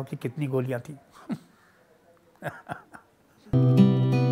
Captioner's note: laughs